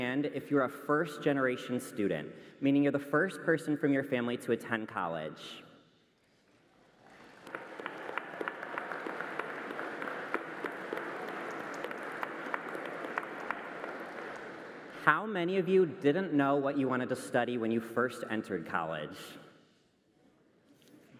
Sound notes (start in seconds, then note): 10.2 applause